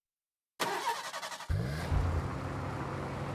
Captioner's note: engine starts